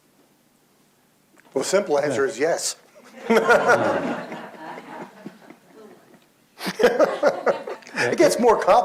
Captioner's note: laughs